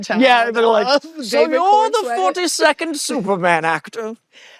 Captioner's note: mimics old man